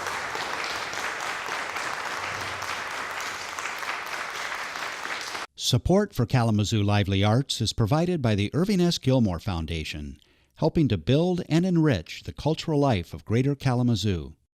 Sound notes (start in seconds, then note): 2.0 applause